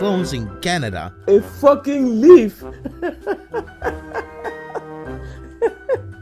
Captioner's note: laughs